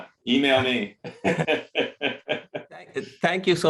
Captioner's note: laughter